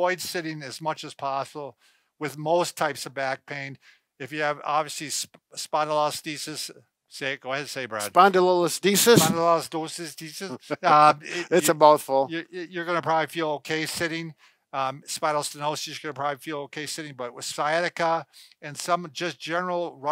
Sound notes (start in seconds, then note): 10.4 laughs